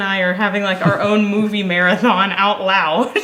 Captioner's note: laughs